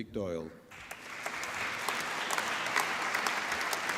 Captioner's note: applause